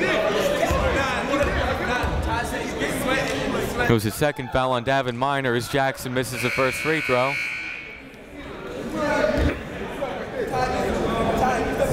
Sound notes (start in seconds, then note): 0.2 chatter; 8.8 chatter